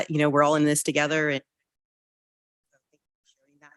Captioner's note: audio trails off